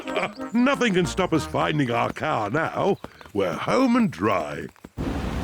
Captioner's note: snorts and giggles; laughs